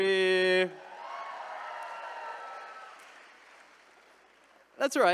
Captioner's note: attendees cheering